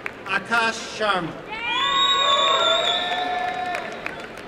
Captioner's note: applause and cheering